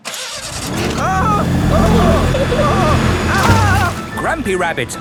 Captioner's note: grandpa screaming